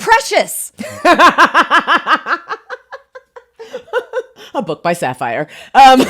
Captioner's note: laughs; both laugh heartily